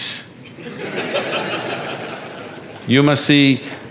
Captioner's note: audience laughs